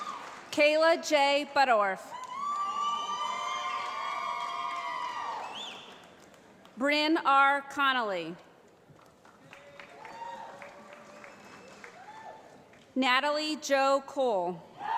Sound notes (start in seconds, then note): 2.1 cheering; 8.8 applause